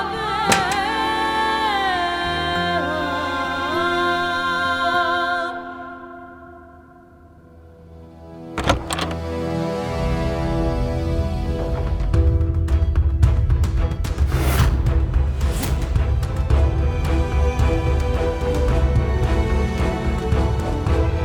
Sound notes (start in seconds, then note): 0.4 doors rattling; 8.6 doors rattling; 12.0 tense music playing